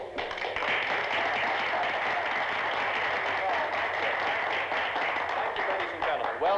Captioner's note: applause